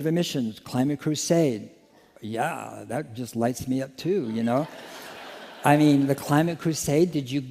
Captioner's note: laughter